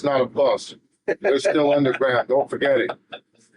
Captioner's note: laughing